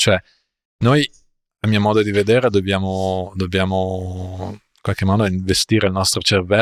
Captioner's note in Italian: sbuffare